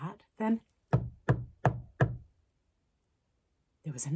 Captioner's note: knock, knock, knock